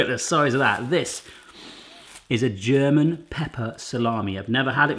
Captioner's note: sniffing